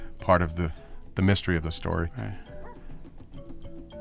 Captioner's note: dog barks